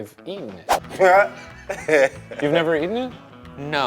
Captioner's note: laughs